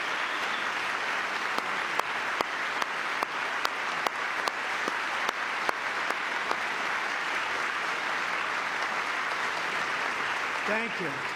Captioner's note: cheering